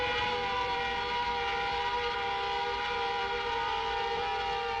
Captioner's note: The Juggernaut whirs